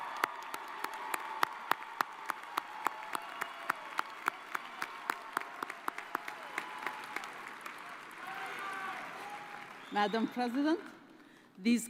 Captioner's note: cheers and applause